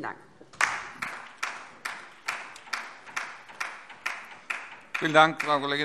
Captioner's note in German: Beifall DIE LINKE